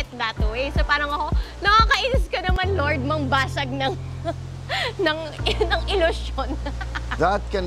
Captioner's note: laughs